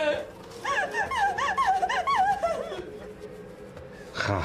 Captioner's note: Sara sobbing; Patrick speaking in foreign language